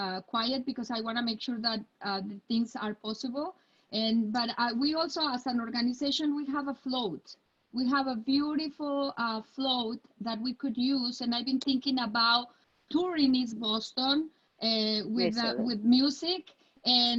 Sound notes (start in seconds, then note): none